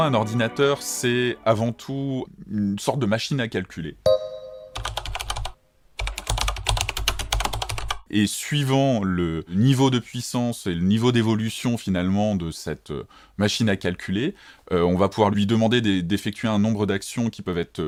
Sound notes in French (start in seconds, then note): 4.1 bruit de clavier